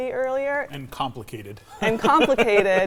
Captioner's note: laughs